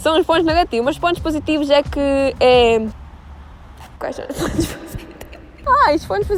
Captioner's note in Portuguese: Risos